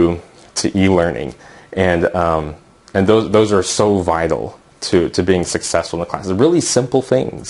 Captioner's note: uumm